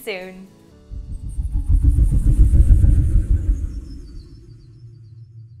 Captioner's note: turbine whooshing